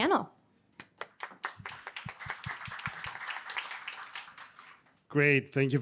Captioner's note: audience applauding